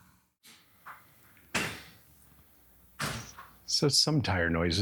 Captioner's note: car settling